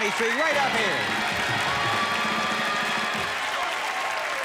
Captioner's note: cheers and applause